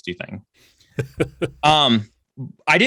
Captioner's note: laughs